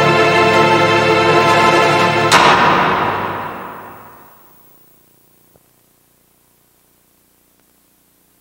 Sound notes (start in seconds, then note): 2.3 prison cell door close